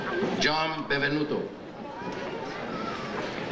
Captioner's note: none